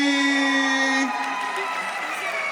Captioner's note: audience applauding